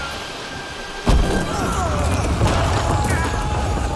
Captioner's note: sailors groan